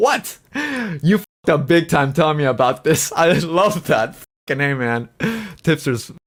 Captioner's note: laughs